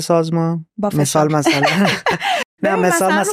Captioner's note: laughs